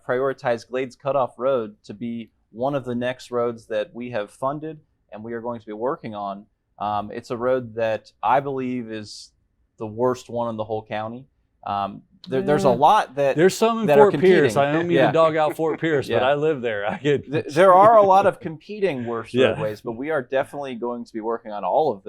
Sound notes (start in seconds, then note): 13.9 laughter